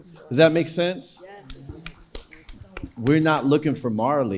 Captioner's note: clapping hands